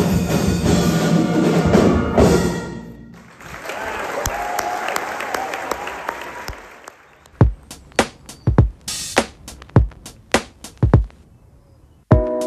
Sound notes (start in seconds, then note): 3.1 audience clapping; 7.4 upbeat music